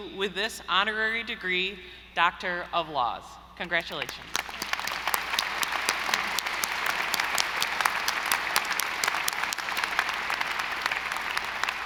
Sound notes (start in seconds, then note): 4.0 audience applauding